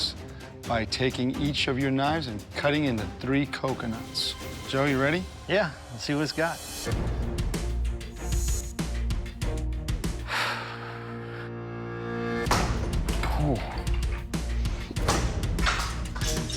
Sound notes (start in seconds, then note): 10.3 sighs